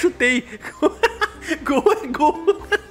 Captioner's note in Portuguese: risos